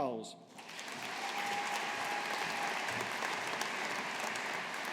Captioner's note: audience applauding